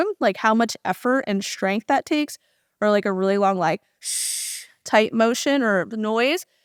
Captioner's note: audible exhale